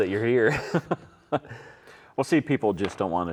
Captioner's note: laughs